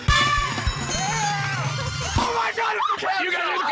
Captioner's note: alarm sounds, bells ring